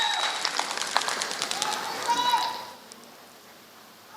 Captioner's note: applause